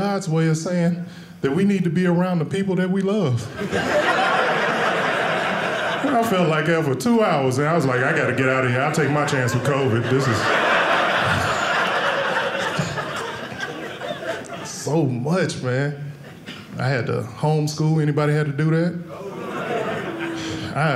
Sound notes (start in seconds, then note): 3.5 audience laughing; 10.4 audience laughing